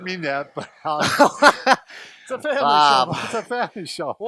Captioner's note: laughs